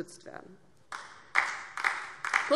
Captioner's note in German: Beifall DIE LINKE